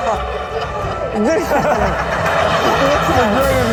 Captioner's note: laughing